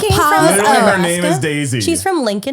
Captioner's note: clamoring